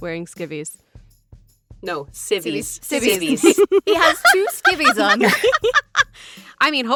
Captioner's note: laugh